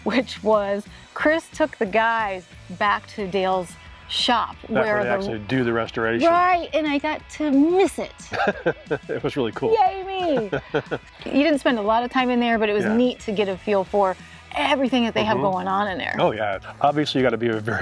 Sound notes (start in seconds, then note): 8.2 laughing